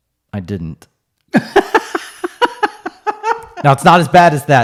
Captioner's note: laughing